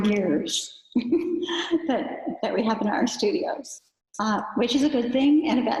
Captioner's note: giggles